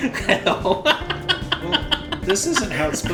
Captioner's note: laughs